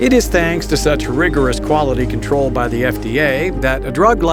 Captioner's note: voiceover